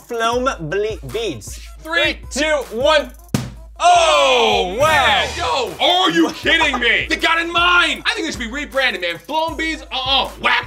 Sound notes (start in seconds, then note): 3.3 pop; 3.8 exclaiming